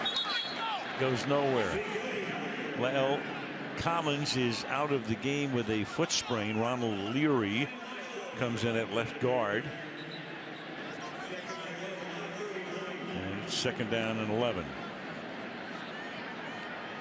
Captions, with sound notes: Elliott goes nowhere. [pa announcement] La'el Collins is out of the game with a foot sprain. Ronald Leary comes in at left guard. [onfield chatter] [pa announcement] It's second down and 11.